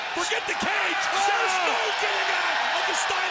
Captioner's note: audience cheers